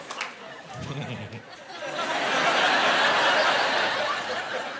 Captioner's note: snickering